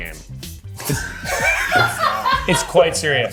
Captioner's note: everyone laughing